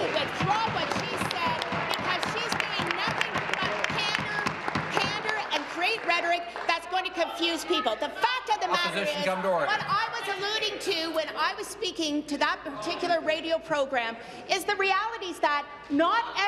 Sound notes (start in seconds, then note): 4.6 applause